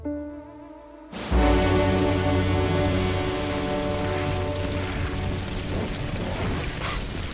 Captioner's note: suspenseful ominous music; fire crackling